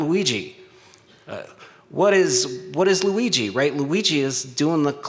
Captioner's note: stutters